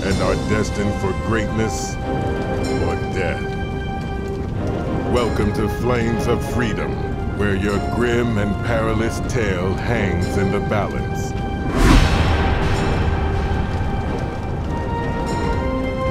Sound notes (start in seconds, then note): 11.4 swoosh; 11.7 metallic clangs; 14.5 dramatic music